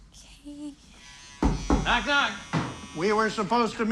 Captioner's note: knocking at door